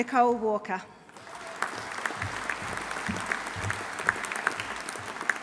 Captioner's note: audience applauding